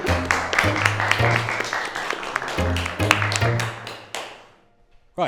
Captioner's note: applause